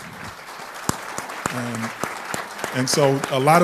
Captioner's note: applause